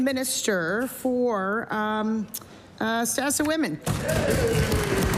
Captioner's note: some Applause